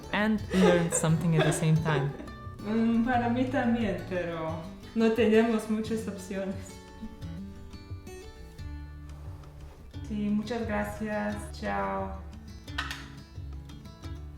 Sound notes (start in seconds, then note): 2.7 continues speaking in Spanish